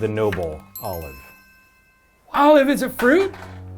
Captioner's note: electric chime